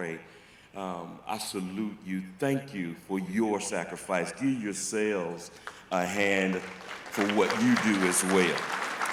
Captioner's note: applause